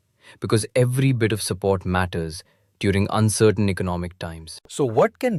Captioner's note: thoughtful